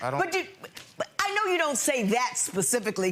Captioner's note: judge stammers